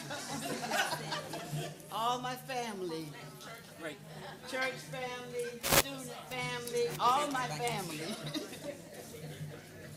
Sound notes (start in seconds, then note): 4.4 laughter